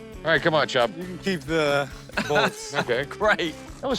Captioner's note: laughs